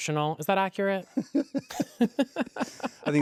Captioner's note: laughs